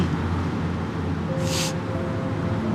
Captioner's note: sniffles